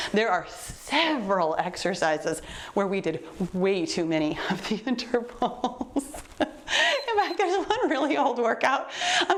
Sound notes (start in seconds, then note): 5.3 laughs; 6.8 timer beeps